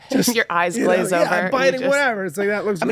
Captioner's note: group laughing